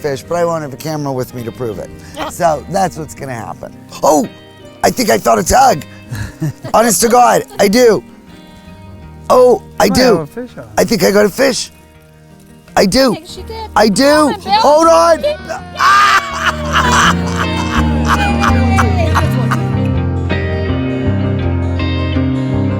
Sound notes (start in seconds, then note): 2.2 laughs; 6.1 laughs; 15.8 laughs; 19.6 upbeat music